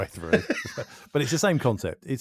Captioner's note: laughs